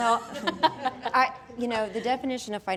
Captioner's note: laughing